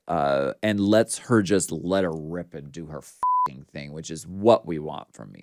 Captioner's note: beep